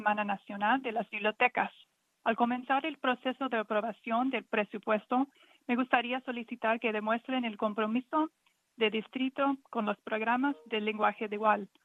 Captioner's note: speaking in spanish